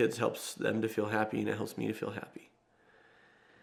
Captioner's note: sighs